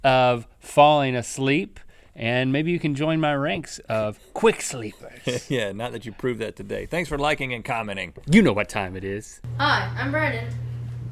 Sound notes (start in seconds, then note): 3.9 laughing